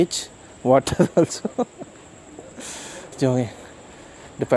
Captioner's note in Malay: laugh